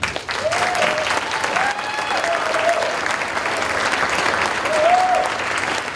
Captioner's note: audience cheering and applauding